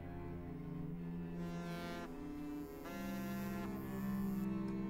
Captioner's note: phone vibrating